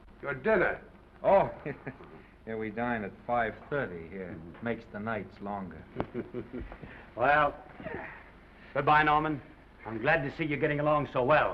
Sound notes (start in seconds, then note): 5.8 Oliver chuckling